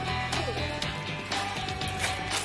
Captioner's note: glass shattering